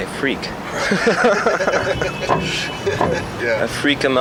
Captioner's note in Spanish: risas